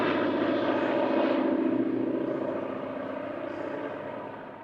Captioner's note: engine roaring